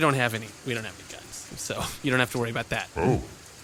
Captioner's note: laughs